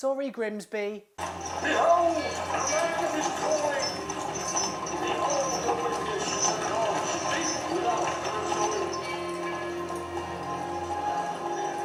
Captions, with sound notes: Sorry, Grimsby. (impassioned preaching) (sombre music)